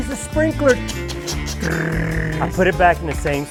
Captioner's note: mimicking sprinkler sound